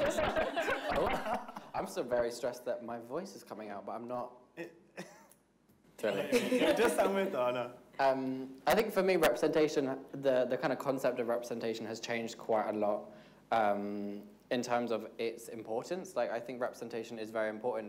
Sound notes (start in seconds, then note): 0.0 panelists laugh; 6.2 panelists laughing